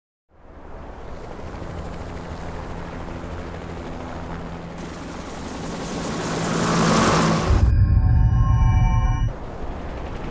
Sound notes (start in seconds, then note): 0.6 helicopter blades whirring; 6.7 eerie music